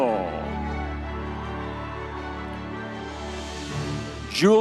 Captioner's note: audience members cheering